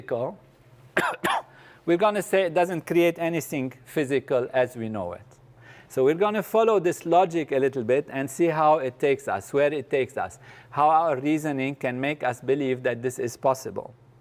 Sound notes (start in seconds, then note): 0.9 cough